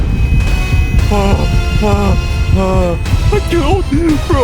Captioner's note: breathing heavily